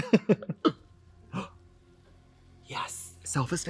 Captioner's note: Trixie and Katya laugh; gasps